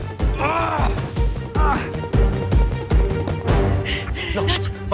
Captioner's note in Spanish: Gruñe